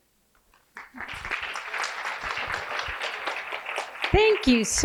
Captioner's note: applause